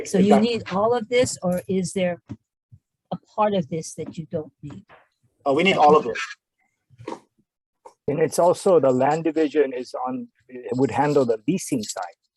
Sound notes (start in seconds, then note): none